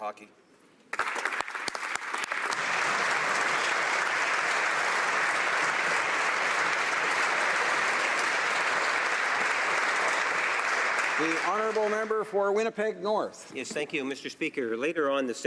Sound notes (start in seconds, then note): 4.0 applause